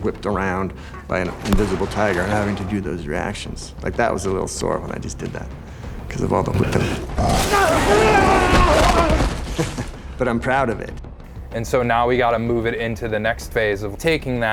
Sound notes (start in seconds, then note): 6.4 tiger snarling; 9.4 laughs